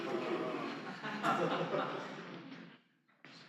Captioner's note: laughter